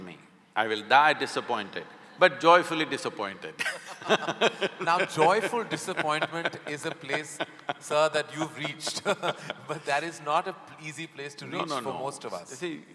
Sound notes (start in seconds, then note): 3.6 both laugh; 8.9 laughs